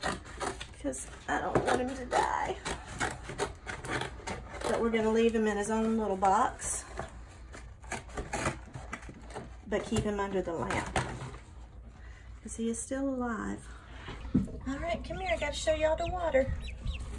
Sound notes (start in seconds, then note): 0.0 cutting sounds; 2.1 voice cracking; 2.4 cutting sounds; 7.8 cutting sounds